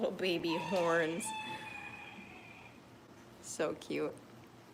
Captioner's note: rooster crowing